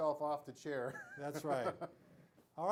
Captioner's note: laughs